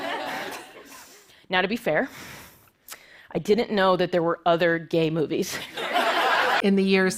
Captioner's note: laughter; laughter